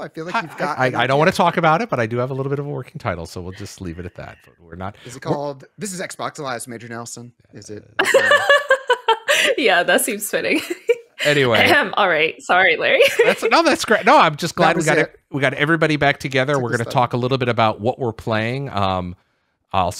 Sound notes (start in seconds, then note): 7.6 laughing; 13.0 laughs